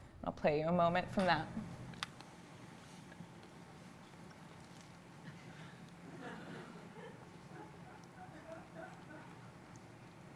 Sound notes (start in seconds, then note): 6.0 audience giggles softly